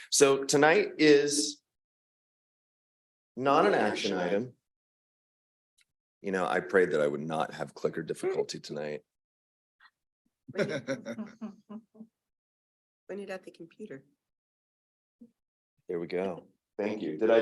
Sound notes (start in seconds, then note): 10.5 board members chuckling